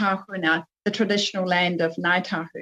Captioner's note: speaking French